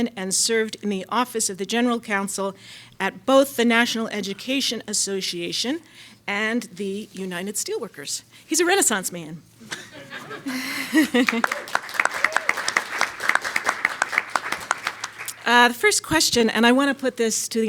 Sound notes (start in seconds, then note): 9.6 audience laughs; 10.2 audience applauds